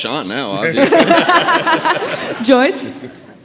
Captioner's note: audience laughing